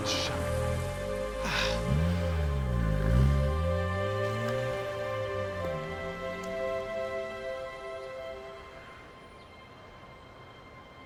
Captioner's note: mutters in italian